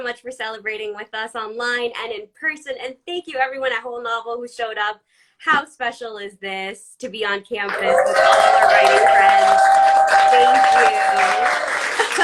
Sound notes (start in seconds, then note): 9.4 all cheer; 10.0 laughs